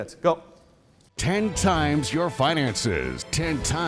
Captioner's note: voiceover